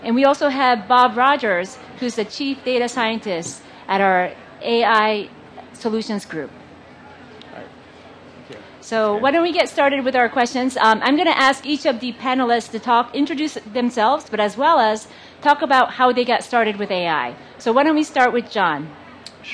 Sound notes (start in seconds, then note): none